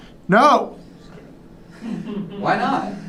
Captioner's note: laughter